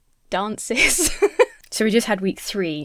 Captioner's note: Emma laughs